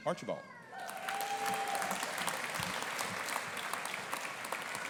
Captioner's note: audience applauding